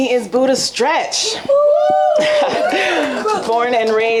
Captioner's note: audience applauding and cheering